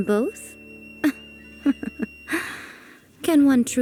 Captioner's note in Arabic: يضحك